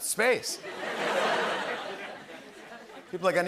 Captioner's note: laughter